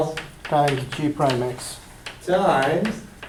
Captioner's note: voiceover